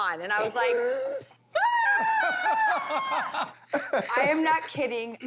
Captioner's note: screams